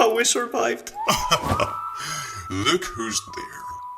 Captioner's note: laugh in the background